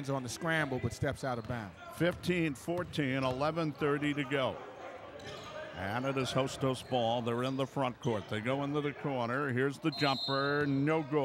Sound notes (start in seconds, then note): 4.4 shoes squeaking; 4.4 yelling; 9.9 whistle blows